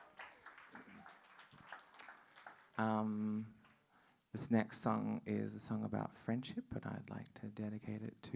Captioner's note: applause